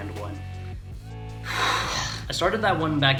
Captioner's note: exasperated exhale